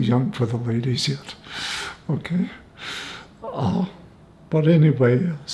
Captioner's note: laughing